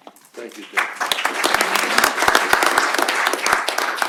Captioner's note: applause